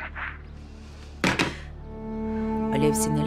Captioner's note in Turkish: Telefon koyma sesi